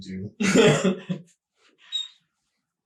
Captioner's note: laughing